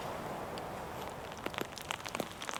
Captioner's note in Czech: Zvuk lehkého deště